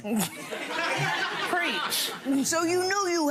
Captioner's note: gallery laughs